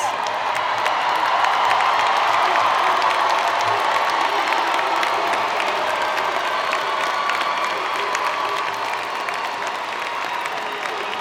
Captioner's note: applause